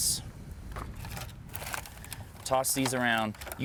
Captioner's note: fingers scraping pan